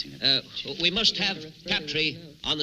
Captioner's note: crowd murmuring